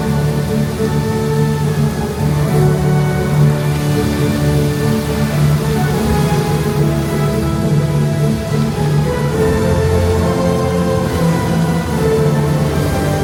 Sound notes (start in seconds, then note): 4.9 epic music plays; 4.9 fountain splashes